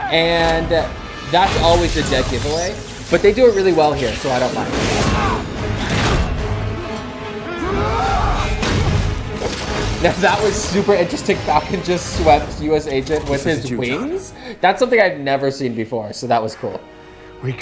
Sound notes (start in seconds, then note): 7.4 grunting; 8.1 metal clanking